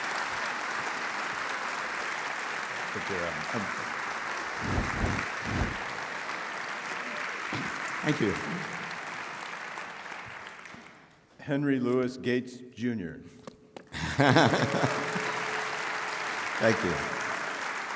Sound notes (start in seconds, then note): 13.5 clapping; 14.0 Henry laughing; 14.0 audience applauds